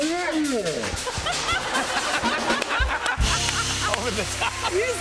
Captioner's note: laughter